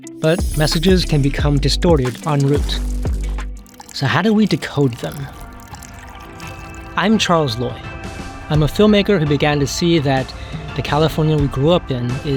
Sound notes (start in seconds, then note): 5.4 water sloshing